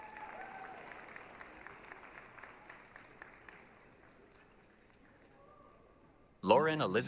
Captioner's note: applause, cheering